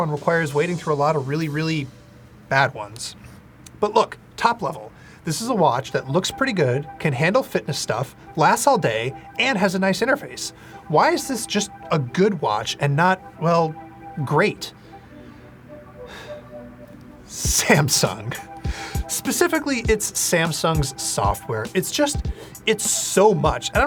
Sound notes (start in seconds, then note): 16.0 sighing